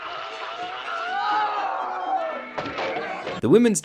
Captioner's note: men shouting